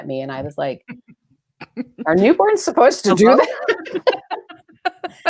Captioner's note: laughs